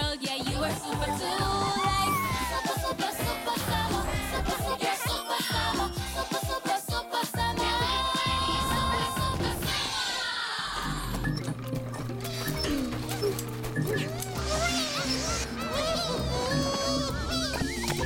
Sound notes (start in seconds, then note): 11.0 whirring